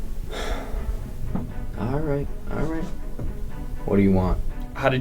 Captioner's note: sighs